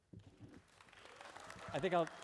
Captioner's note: applause